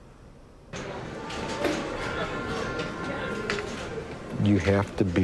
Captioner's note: bar ambience